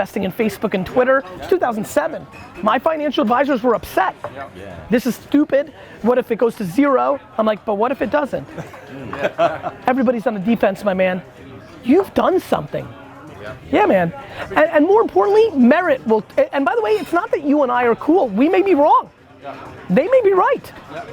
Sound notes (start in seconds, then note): 8.5 laughs